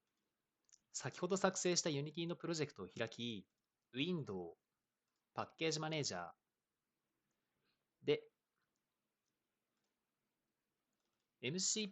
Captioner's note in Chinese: 四秒停顿; 六秒停顿